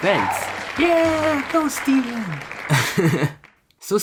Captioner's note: chuckles cutely